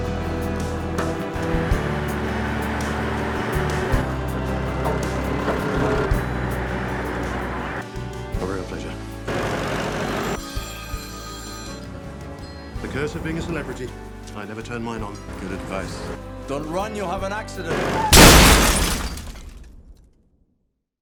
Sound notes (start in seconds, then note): 10.1 tractor engine rumbling; 10.9 phone ringing; 17.7 car crashing